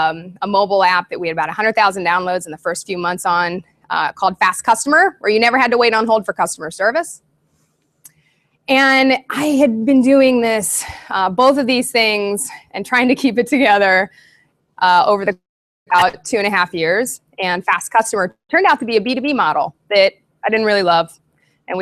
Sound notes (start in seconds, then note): 15.9 audio skips